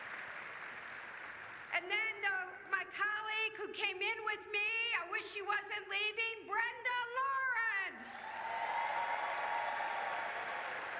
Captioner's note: applause